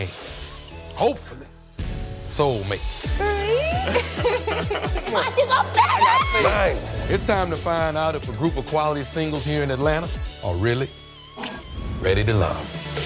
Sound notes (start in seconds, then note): 3.6 laughs; 5.7 screams